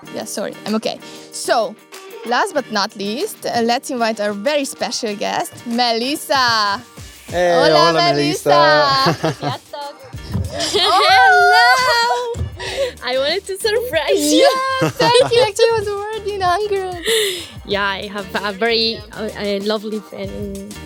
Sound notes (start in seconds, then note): 7.7 greets in hungarian